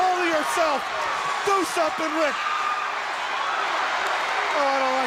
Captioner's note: crowd cheering